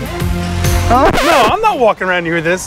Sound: record scratch

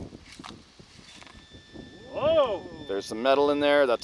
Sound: pointer pings

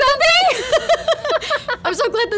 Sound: laughing

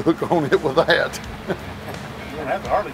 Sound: laughing

